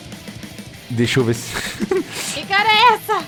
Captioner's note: nervous laugh